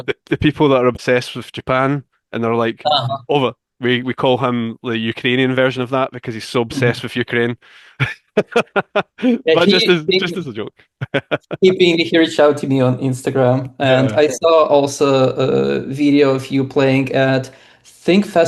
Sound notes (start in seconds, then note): 7.9 laughs